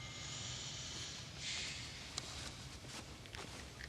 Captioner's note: sighs